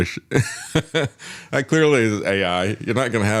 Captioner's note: laughs